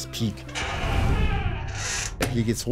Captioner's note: creaking